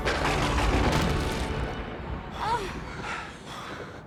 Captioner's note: thunder crashing